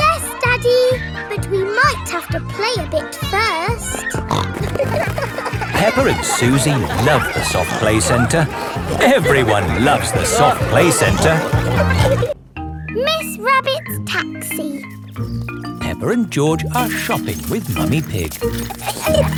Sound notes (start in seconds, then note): 4.3 snorting